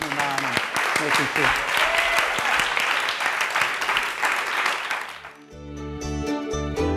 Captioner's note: audience applauds; uplifting instrumental music